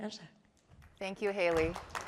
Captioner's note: applause